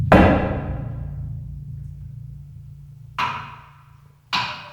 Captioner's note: drum booms; pole thuds; instrument clacks